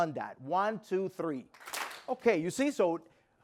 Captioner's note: clap